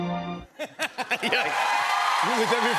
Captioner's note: laughs; cheers and applause